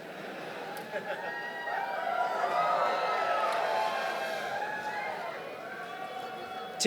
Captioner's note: applause